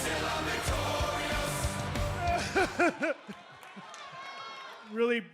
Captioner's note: crying loudly